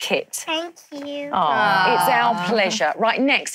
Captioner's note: awe in unison